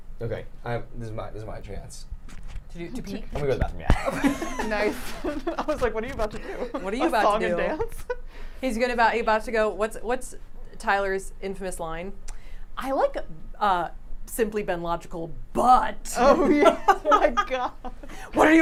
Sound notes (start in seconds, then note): 3.9 laughs; 16.3 laughs